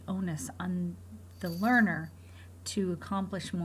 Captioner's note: bell jingling